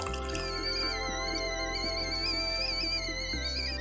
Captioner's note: kettle whistling